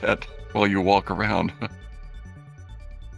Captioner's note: chuckling